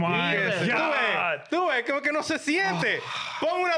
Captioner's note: speaking In Foreign Language